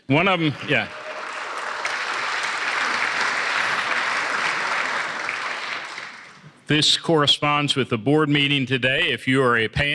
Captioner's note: applause